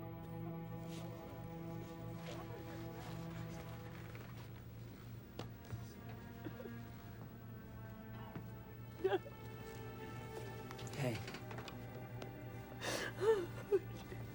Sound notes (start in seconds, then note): 0.0 tense music; 6.4 Roberta sobs